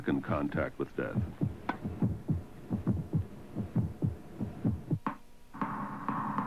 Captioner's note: heart beats